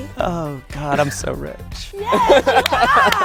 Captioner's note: laughs